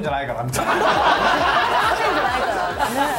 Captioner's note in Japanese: 全員爆笑